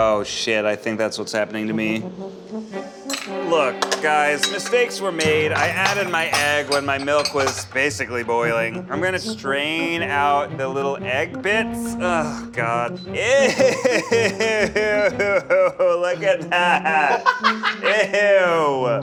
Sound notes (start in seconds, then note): 13.2 laughs